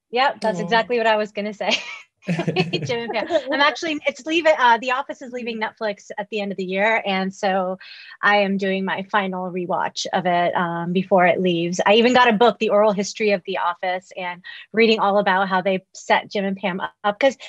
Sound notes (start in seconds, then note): 2.3 laughs